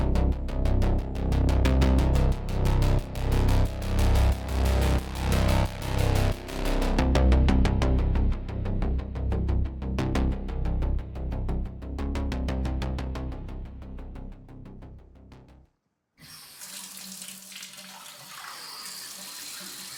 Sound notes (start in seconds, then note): 16.2 shower